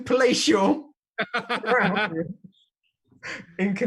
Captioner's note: laughs